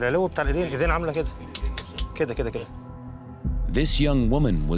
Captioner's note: speaking foreign language